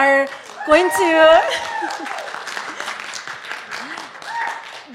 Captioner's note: cheering, applause